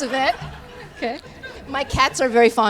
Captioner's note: laughter